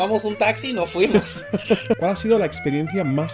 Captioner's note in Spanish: risas